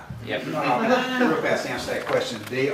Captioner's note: laughter